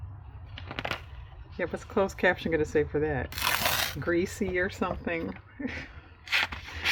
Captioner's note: laughs